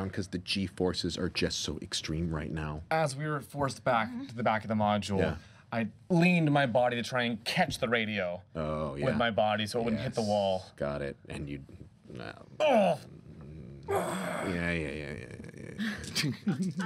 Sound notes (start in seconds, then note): 12.1 groaning